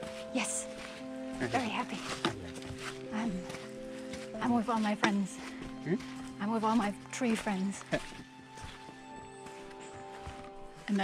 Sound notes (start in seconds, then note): 7.8 laughs